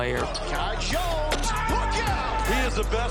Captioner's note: crowd cheers